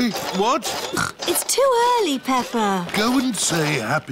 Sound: snorts

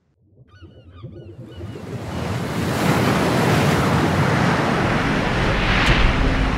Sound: seagulls calling; waves rushing

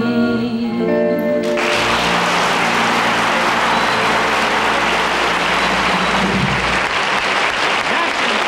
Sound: audience applauds

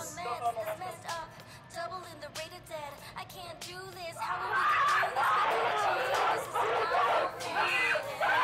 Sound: TikTok plays on Girl 1’s phone

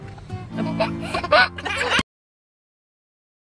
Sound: baby laughing

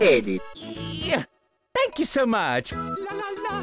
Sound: grunt

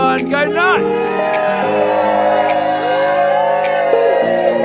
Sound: happy cheering

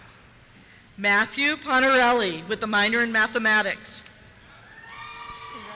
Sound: cheers

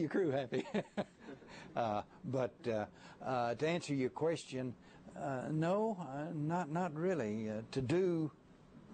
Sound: laughter

